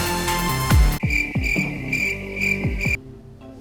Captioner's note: crickets chirping